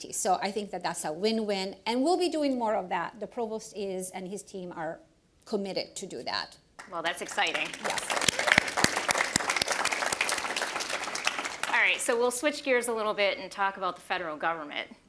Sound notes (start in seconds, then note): 6.8 applause; 6.8 applause continues